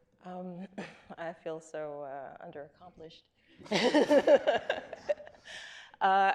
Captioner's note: laughs